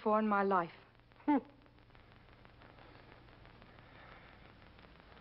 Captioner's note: Nick chuckles